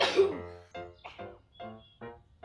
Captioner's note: sneeze